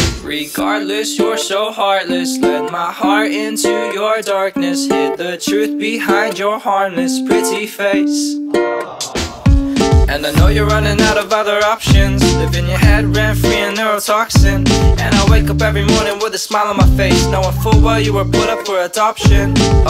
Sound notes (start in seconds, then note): 8.8 aww